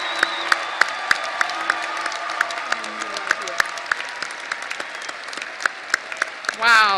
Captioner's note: audience applause and cheering